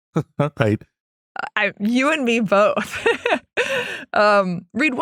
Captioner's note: laugh; laugh